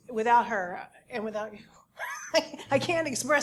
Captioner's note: laugh